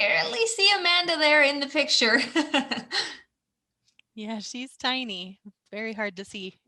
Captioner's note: laughter